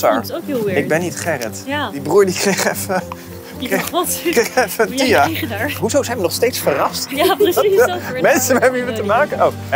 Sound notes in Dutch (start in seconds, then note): 2.4 lachend